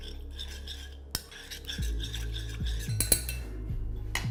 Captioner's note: spoon scraping bowl